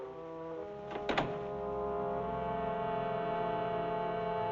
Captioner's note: door Closes